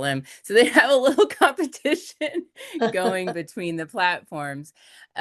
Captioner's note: laughs